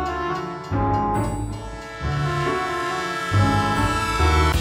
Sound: train horn blaring

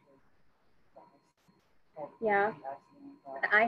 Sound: student speaking faintly

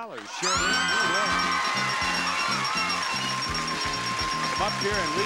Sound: audience clapping, screaming

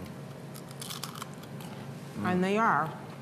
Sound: crunching

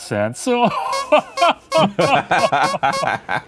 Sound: laughing

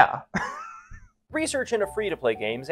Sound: laughs

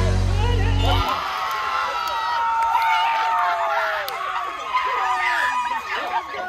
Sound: cheering, screaming

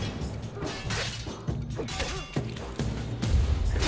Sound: fighting sounds

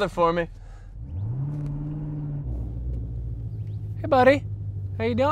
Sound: car engine roaring

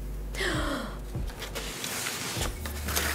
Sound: gasps

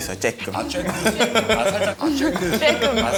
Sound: laughing

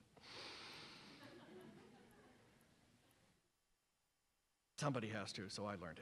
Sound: laughter from audience

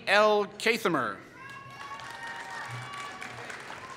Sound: applause

